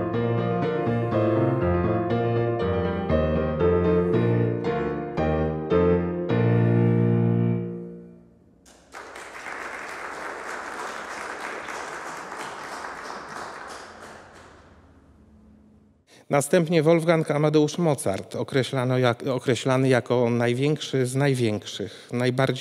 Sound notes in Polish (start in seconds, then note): 0.0 zakończenie partią fortepianu; 8.6 oklaski